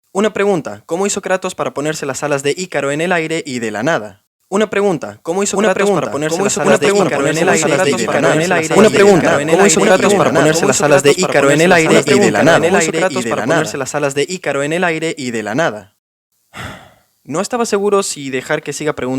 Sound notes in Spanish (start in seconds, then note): 6.1 suspiro